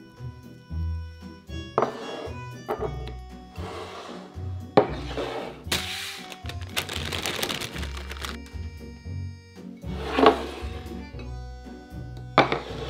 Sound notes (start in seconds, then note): 6.1 plastic rustling